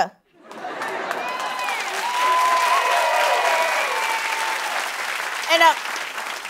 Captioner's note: cheers and applause